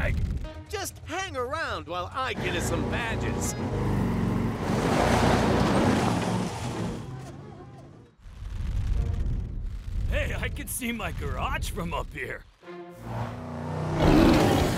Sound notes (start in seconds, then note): 3.5 tries squealing; 13.0 engines roaring